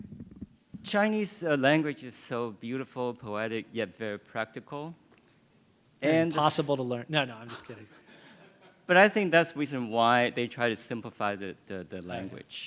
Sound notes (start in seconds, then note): 7.4 laughter